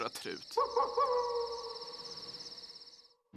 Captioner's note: wolf howls